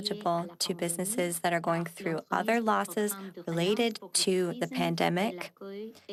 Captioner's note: speaking French